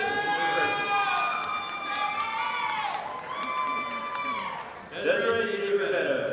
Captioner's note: audience applauding